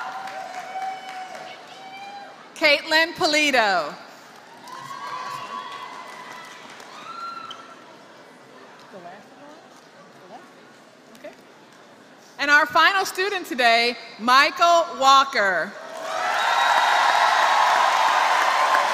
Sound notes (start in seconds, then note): 2.5 applause; 15.9 applause